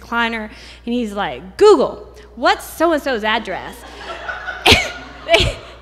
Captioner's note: laughter